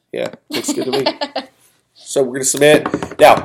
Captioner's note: laughs